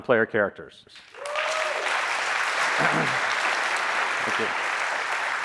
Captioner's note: applause